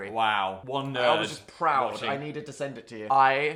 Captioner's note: none